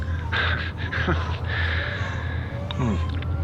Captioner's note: dark chuckle